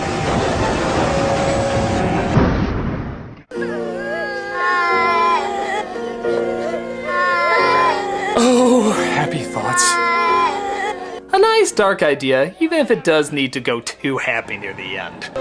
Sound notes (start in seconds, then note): 3.5 kids crying in the background